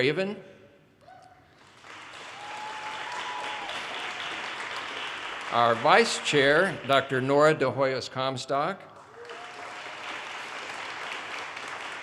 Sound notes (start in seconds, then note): 4.5 audience cheers and applause